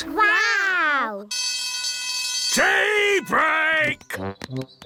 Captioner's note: alarm ringing